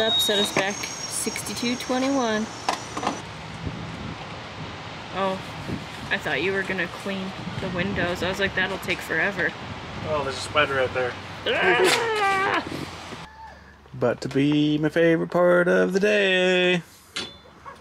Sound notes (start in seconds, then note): 11.6 graunts